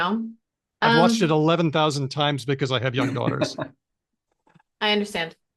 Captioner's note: laughs